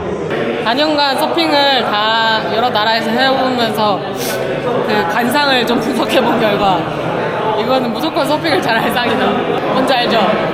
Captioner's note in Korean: 훌쩍